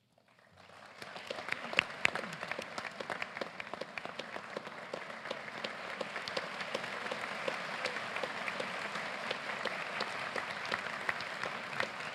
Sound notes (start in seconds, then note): 1.3 applause